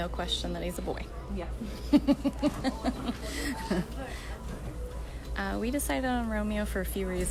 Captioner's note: laughter